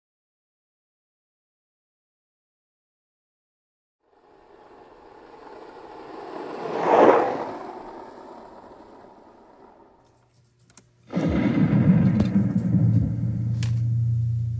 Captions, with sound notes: CAPTIONS MADE POSSIBLE BY DANTETUBE ENTERPRISES, INC. [car driving] [thunderstorm]